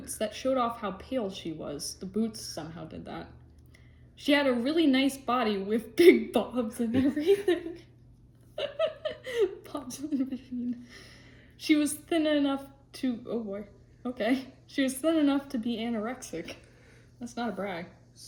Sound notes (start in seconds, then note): 8.5 laughter